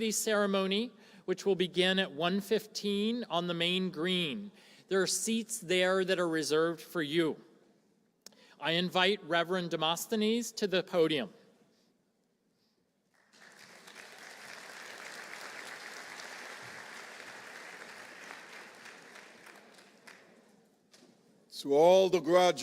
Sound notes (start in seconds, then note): 13.1 applause